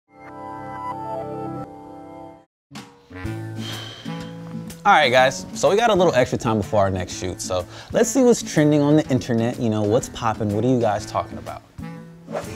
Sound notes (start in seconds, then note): 3.4 exhales